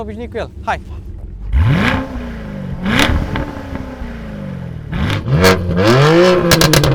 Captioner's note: exhaust sounds